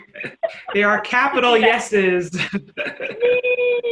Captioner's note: laughs